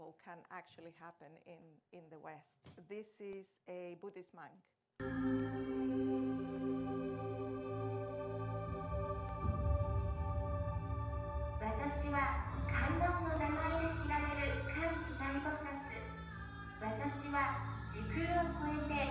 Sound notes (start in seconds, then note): 5.1 soft music; 11.9 Buddhist Mindar speaking in foreign language